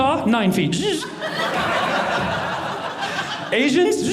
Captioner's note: audience laughing